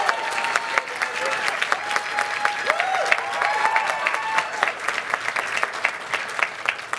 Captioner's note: cheers and applause